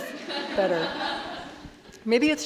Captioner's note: audience laughing